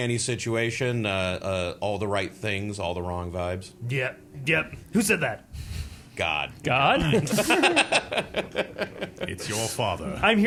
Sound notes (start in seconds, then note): 6.9 laughing